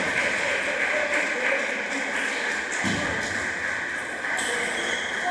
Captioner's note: applause